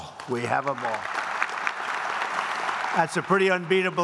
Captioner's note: applause